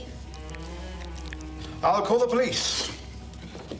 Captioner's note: squelching